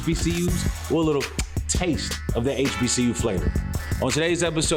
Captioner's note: kisses lips